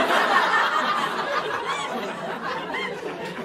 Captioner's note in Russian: перерыв на смех